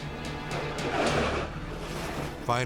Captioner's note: bobsled scraping